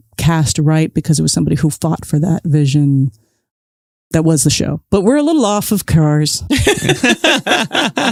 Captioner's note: laughs